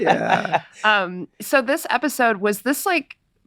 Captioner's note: Glenn laughing